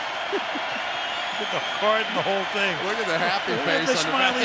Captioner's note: chuckles